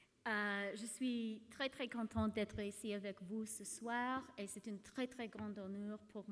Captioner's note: speaks in foreign language